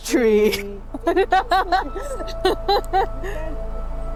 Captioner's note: laughter